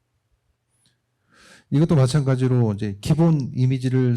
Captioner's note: speaking korean